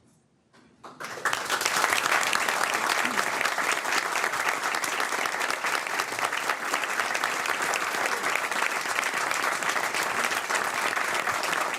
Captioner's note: applause